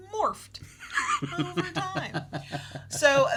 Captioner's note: laughing